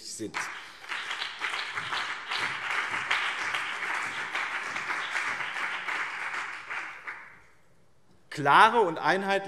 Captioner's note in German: Beifall BÜNDNIS 90/DIE GRÜNEN und CDU